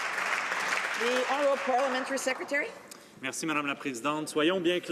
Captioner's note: some Applause